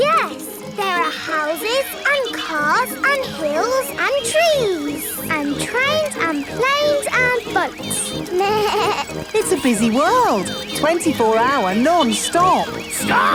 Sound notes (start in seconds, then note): 8.4 bleats